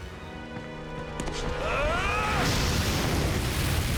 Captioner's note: screaming